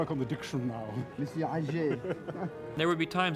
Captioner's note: speaks in French